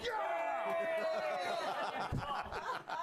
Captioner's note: all cheer